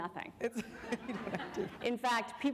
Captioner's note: laughter